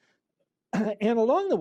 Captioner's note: laughter